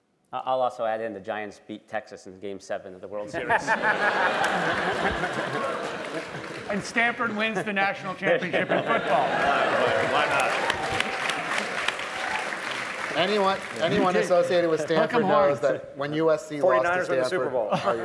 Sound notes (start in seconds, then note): 3.3 laughter; 14.8 laughter; 15.6 applause